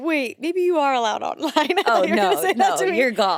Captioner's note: chuckles